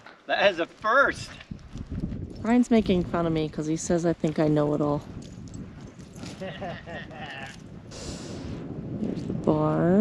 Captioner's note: laughing